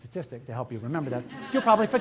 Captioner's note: audience laughs